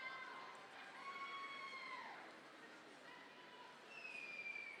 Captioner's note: people cheering